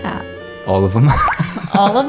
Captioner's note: laughs